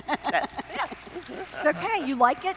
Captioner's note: laughing